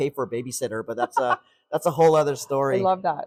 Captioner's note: laughs